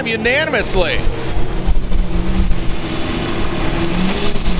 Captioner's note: engines revving